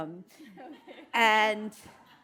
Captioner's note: chuckles; audience laughing